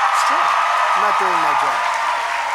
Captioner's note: applause